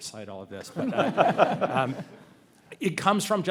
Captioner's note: panelists and audience laugh